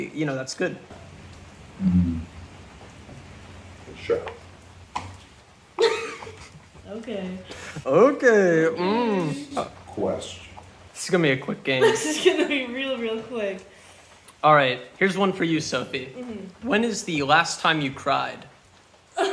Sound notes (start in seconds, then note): 5.8 giggles